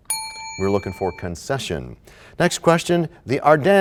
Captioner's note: bell rings, time expires